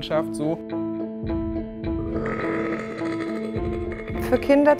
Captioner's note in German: rülpst